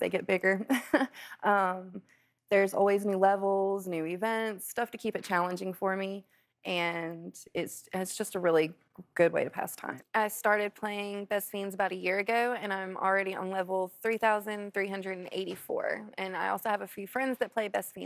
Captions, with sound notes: Every time you level them up they get bigger. [chuckling] Um, there's always new levels, new events, stuff to keep it challenging for me, and it's just a really good way to pass time. I started playing Best Fiends about a year ago, and I'm already on level 3,384,